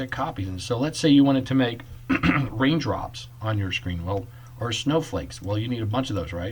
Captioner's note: clears Throat